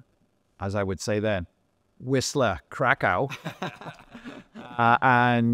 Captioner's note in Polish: śmiech